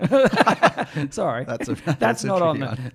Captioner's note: laughs